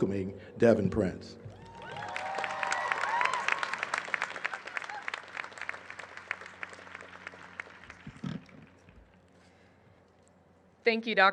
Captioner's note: applause